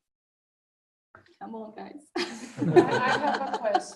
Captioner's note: laughs